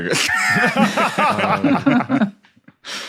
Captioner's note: group laughing